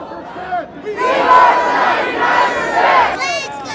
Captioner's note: crowd; kids chant